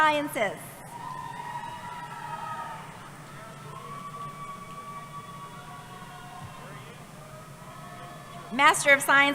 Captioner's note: cheering